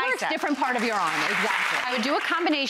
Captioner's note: audience applauds